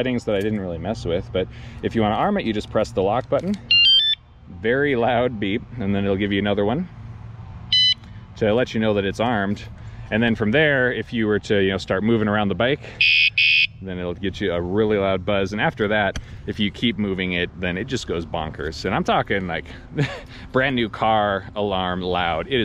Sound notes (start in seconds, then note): 7.7 alarm beeping; 13.0 alarm screeching